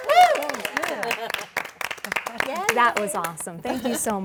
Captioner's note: applause